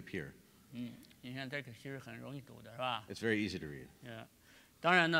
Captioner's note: speaking in Chinese